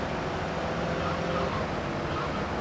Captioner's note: yelling